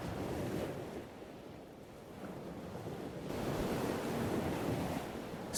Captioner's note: waves sounds